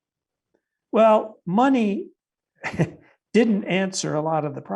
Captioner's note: chuckling